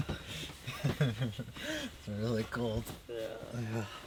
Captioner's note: chuckling